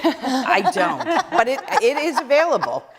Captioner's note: laughter